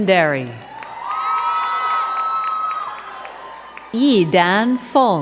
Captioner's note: crowd cheering and clapping